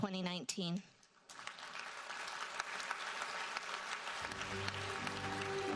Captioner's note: audience applauds